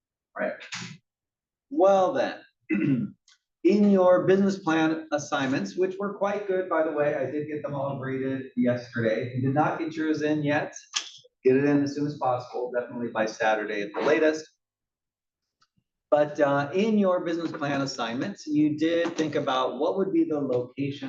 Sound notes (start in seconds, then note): 2.7 cough